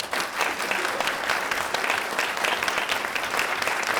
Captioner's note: people applauding